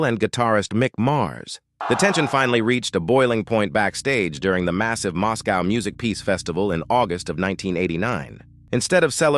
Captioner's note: SFX: loud crowd roar